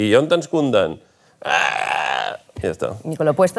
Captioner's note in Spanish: gruñidos